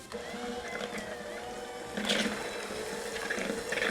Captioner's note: mixer whirring